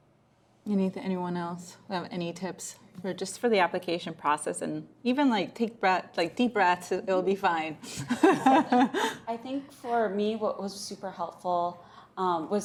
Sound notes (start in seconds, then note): 7.9 laughs